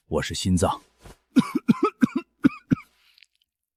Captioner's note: cough cough cough cough